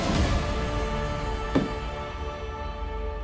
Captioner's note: door closes